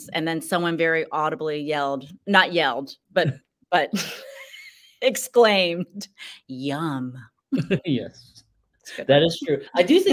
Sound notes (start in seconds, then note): 3.9 laughs